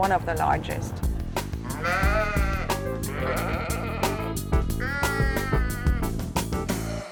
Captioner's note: sheep bleat